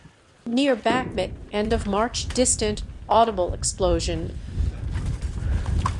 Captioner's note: distant audible explosion